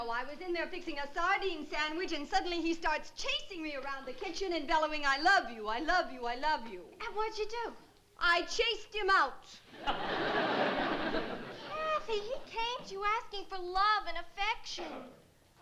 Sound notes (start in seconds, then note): 9.7 laughter